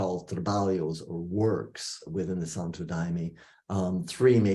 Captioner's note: non-english speech